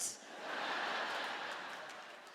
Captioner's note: laughter